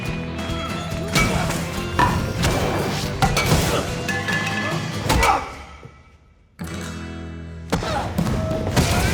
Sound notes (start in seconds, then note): 2.5 scuffling and grunting continues